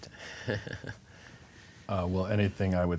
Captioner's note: chuckling